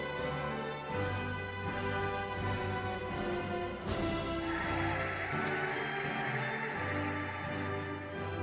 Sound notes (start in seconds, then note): 3.9 cheering and applauding